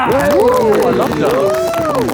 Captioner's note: group cheers